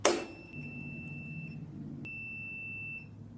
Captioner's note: beeping; whack; beeping stops; beeping; beeping stops